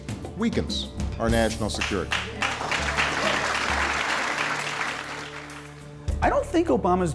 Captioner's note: applause